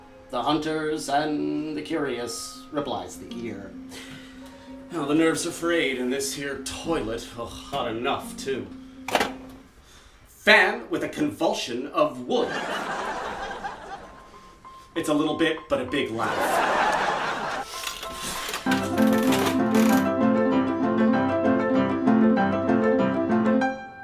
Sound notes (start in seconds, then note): 12.5 canned studio laughter; 16.3 canned studio laughter; 18.5 piano music and the sound of a slot machine